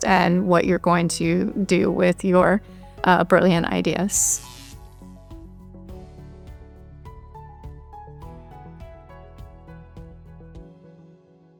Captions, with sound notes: and what you're going to do with your brilliant ideas. (light bulb buzzing) (gentle music)